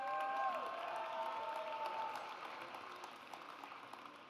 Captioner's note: audience cheers